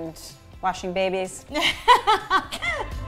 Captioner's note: laughing; upbeat music